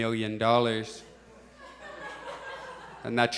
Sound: audience chuckles

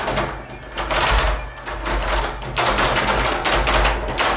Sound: rattling increases

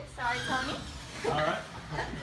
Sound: drilling

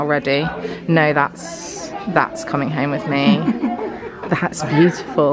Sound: chuckles

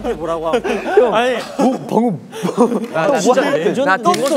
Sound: gasping

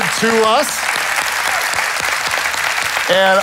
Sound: congregation claps

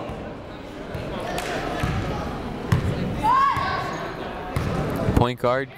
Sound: people shouting in the crowd

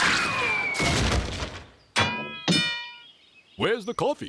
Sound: dings

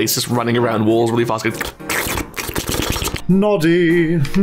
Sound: various licking noises

